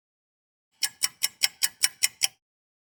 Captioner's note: sound of a ticking clock